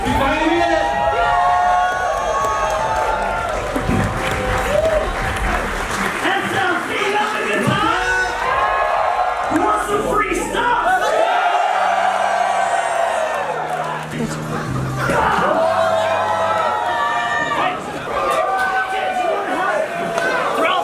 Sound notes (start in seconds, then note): 2.4 crowd cheering and clapping; 7.7 crowd shouting and cheering; 11.0 crowd cheering; 15.8 crowd cheering